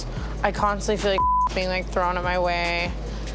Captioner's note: beep